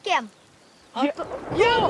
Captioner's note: distant loud thunder